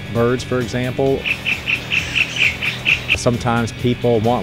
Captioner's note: sound of birds